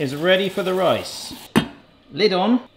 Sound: lid thuds

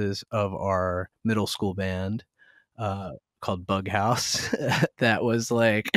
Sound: laughter

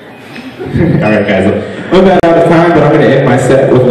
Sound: awkward Chuckles

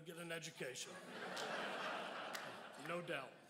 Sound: crowd laughs

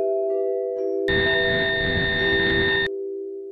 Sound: glitching, High-Pitched Tone

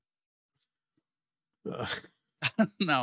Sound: laughs

